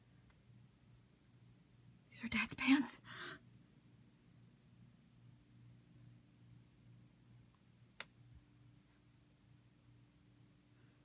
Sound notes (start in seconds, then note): 3.0 gasp